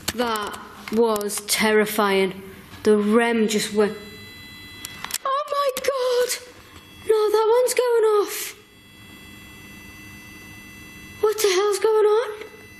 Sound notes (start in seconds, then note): 4.2 REM Pod whines